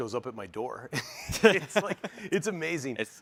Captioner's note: all laughing